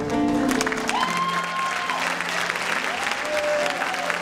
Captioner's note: applause